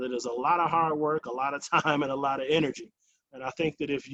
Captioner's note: chuckles